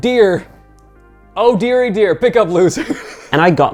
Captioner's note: laughing